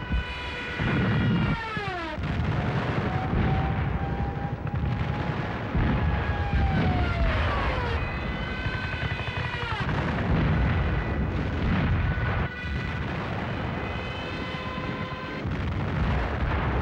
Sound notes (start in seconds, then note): 0.1 plane whining; 4.3 siren wailing; 8.9 bombs exploding; 8.9 planes whining